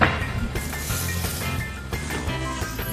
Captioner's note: hot oil sizzling